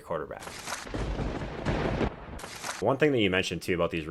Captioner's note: thunder bangs